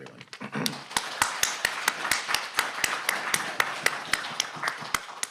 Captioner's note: audience applauding